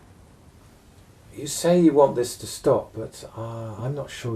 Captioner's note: voiceover